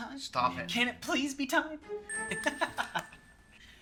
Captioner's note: Colton laughs